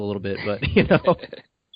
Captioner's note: laughter